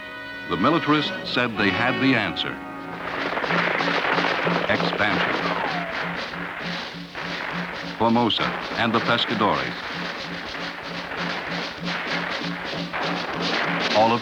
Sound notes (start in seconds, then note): 3.2 gunfire; 10.6 military drumming